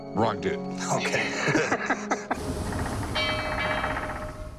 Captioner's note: laughs